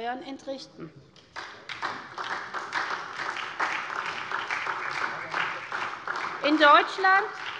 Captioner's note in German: Beifall SPD und DIE LINKE